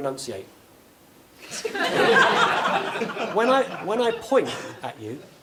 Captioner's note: laugh